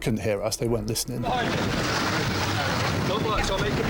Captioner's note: water rushing